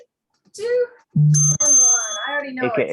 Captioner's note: bell rings